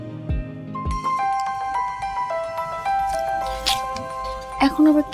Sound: phone rings

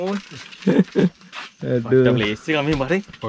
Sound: laughing

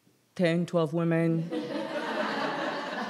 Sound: laughter

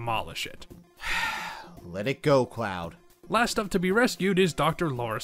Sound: sigh

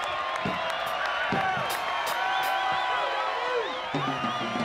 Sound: crowd cheering

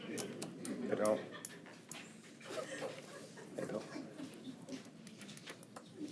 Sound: attendees chuckle; unmiced voice talking

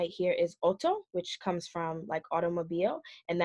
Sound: speaks foreign language

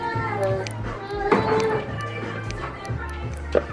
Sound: baby crying

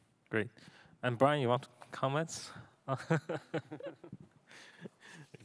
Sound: laughs

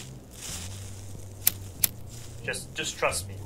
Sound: lighter Clicks; lighter Clicks

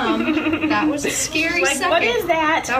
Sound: laughs; laughing

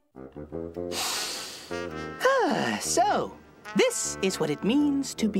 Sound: sniffs

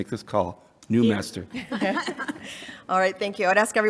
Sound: chuckling

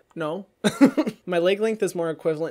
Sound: laughs

